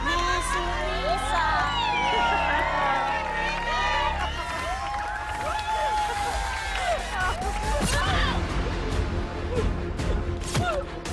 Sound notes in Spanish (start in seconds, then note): 5.2 Aplausos y exclamaciones